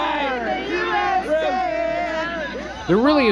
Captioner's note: cheering